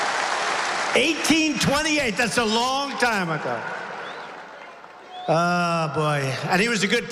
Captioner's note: applause